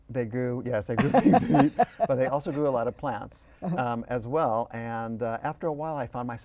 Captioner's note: laughter